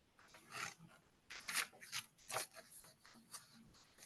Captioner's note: papers rustling